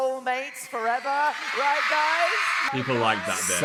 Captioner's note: audience cheering